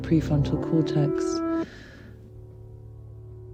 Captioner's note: sighs